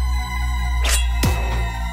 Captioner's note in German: Schwert wird gezogen